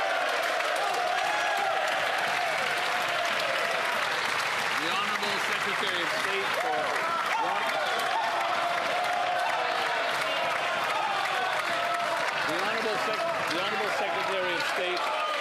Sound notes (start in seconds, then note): 11.7 some Applause